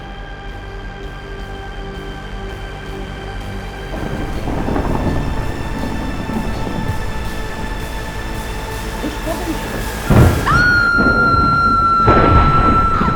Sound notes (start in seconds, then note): 3.8 thunder rumbles; 6.8 heavy rain; 10.3 female screams